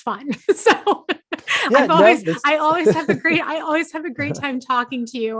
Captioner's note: laughing